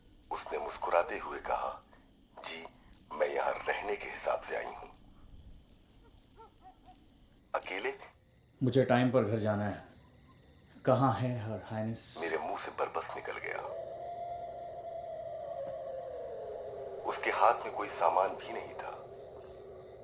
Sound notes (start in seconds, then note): 0.0 radio; 12.8 radio; 17.6 radio